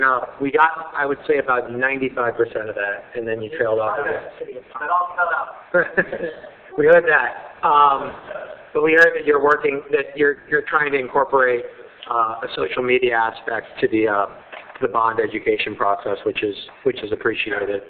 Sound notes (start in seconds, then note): 5.7 laughing